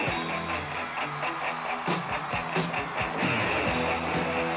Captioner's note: crowd cheering